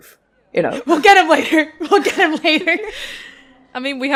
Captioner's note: laughing